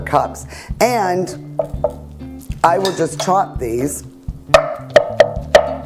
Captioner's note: knife chopping